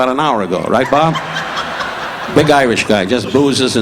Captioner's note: audience laughing